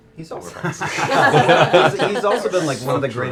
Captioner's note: laughter